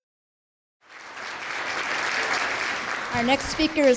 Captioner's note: applause